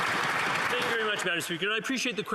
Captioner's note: some Applause